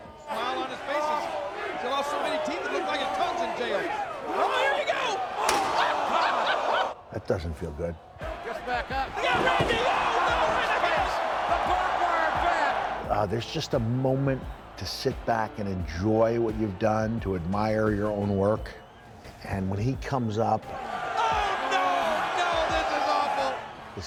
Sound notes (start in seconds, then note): 6.7 laugh